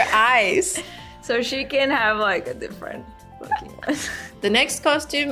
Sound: laughs

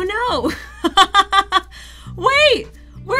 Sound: laughs

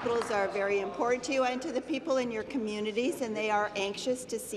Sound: applause

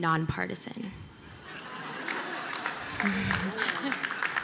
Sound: laughter

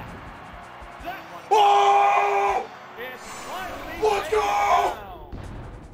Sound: screams but happy this time

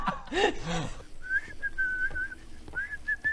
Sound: unsuspicious whistling

